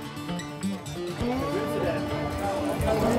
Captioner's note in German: Leises Stimmengewirr